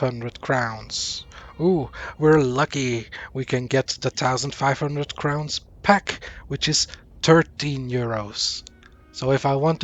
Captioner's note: sarcasm